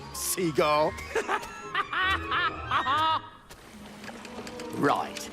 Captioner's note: laughs